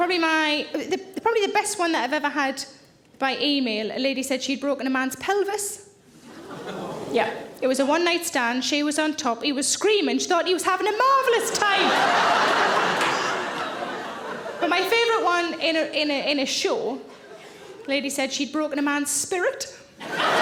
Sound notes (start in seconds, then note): 6.5 audience moans; 11.2 audience laughing; 20.0 audience laughing